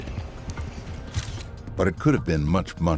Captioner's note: camera clicking